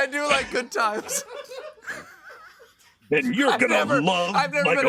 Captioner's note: laughter